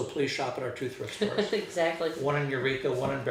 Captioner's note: laughing